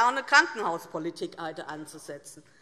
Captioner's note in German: none